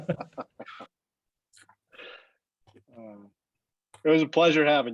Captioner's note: laugh